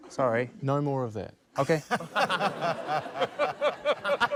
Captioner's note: laughter